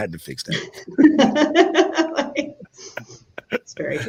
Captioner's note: panelists laughing